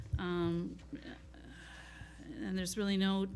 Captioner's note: sighs